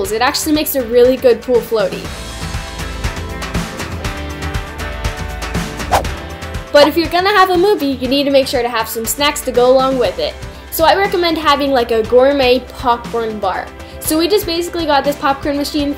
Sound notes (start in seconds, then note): 2.2 upbeat music; 5.8 whooshing